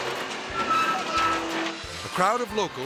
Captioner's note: metal creaking